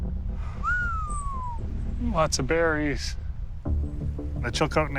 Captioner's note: whistles